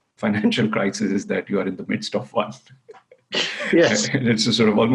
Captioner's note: laughs